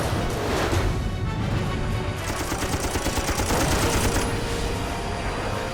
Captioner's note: tense music playing; gunfire